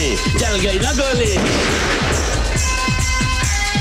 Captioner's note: Gunshot